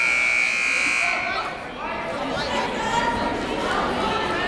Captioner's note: buzzer blaring